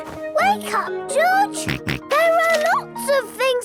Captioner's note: George snorts